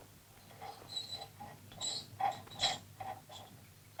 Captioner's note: metal squeaking